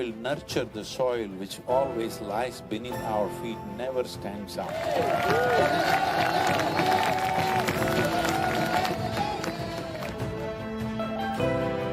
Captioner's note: few laugh